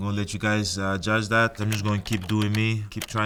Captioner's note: keyboard clicking